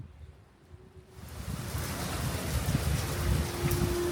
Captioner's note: sound of heavy rain